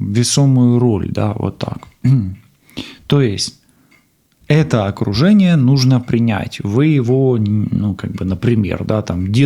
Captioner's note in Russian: откашливается